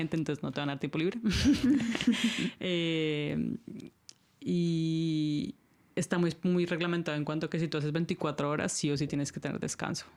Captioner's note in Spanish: risas